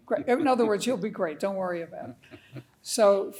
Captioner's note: laughing